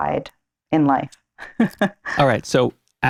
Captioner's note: laughs